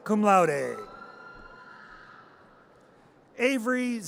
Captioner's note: audience cheers